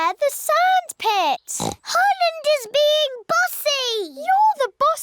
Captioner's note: bleats; oinks